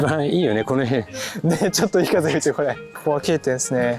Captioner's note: laughs